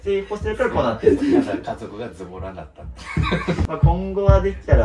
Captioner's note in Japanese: 笑い